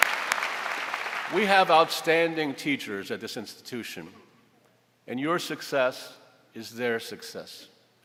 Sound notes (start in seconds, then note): 4.5 applause